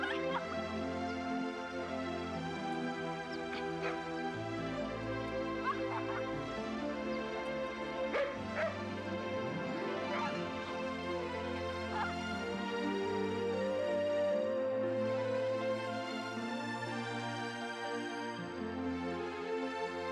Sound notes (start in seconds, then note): 5.3 Nero barking; 13.1 pleasant music